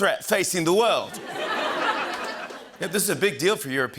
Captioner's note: laughter